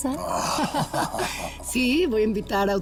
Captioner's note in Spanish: Risas